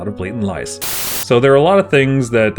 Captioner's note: TV static